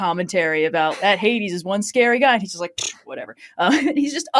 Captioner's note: laughing